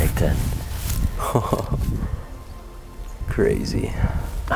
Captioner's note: chuckling